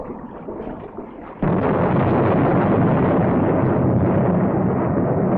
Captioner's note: thunder rumbling